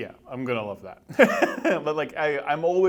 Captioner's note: laughs